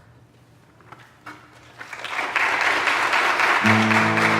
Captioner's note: audience clapping